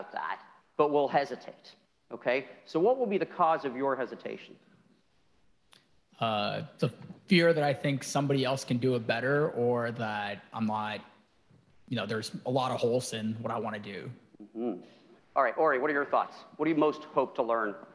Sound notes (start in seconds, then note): none